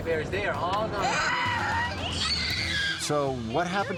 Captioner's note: screaming